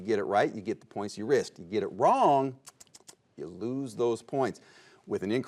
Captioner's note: tongue clicks